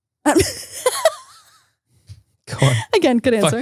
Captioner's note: laughing